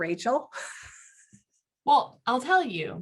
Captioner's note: giggling